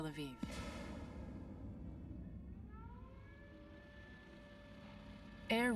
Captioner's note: explosion; sirens